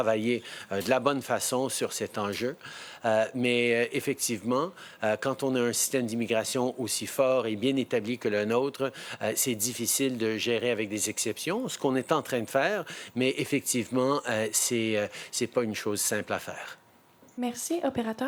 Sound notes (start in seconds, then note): 6.1 speaking in French